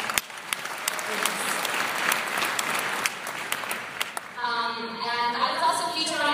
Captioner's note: applause